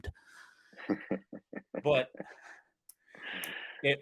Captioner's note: laughter